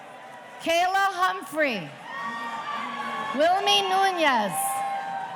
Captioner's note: audience cheering